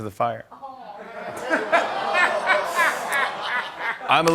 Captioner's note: laughter